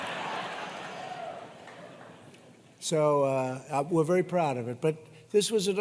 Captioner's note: laughter